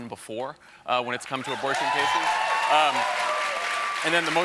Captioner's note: applause